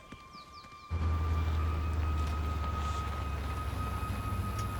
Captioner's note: Humvee rumbling